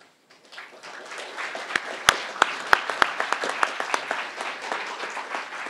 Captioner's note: crowd applauding